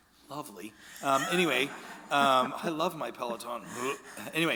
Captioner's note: imitating gagging